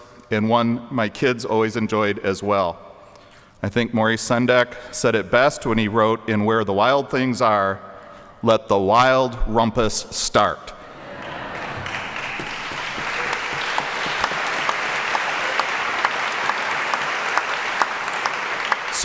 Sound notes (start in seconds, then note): 11.1 audience laughing; 11.1 applause